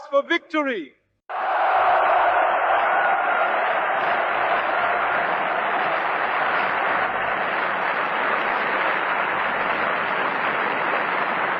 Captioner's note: crowd cheering